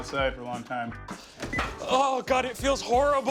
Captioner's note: beeps